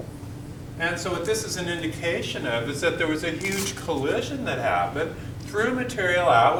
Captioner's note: crackle